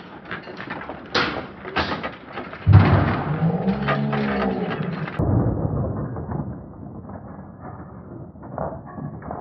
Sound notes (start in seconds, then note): 2.6 even slower motion computer voice